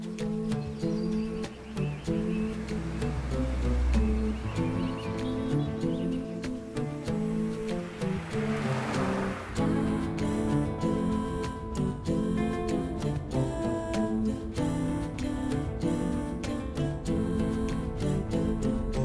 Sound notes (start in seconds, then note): 0.3 expectant music; 7.7 car rumbling; 15.1 expectant music continues